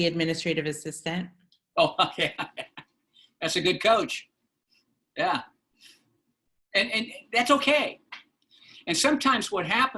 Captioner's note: laughter